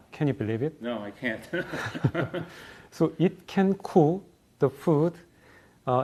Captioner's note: laugh